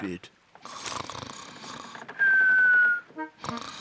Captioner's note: snores